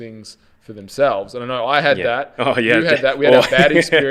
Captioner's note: laughs